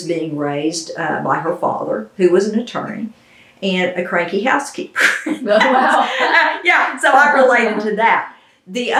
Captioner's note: laughter